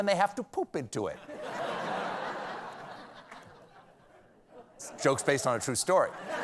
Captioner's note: laughter